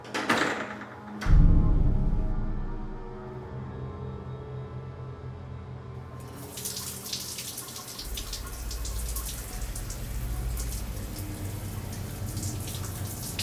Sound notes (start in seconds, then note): 0.1 closes door; 6.2 shower running